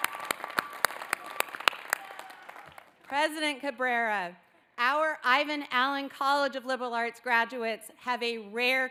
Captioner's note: cheering